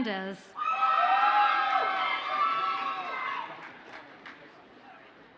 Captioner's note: audience cheers and applauds